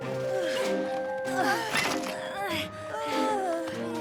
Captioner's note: all grunting, moaning